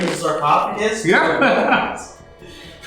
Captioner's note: laughs